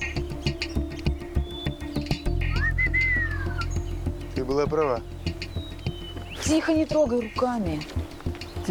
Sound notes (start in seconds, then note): 2.5 whistles